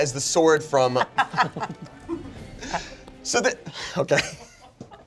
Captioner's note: everyone laughs